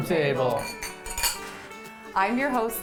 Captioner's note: glasses clinking